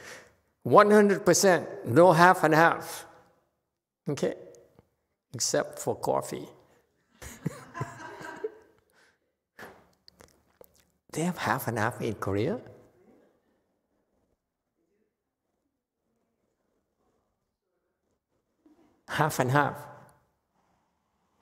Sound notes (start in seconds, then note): 7.2 laughs, audience laughs